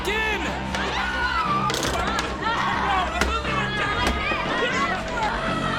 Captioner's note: screaming